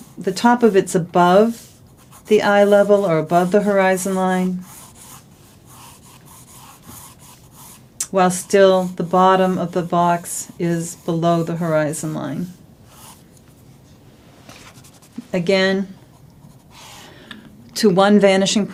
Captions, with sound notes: the top of it's above the eye level, or above the horizon line [drawing sounds]. While still, the bottom of the box is below the horizon line. Again, to one vanishing point from this corner.